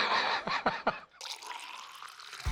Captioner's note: laughs; pouring